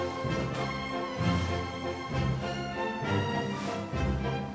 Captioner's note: fabric rustling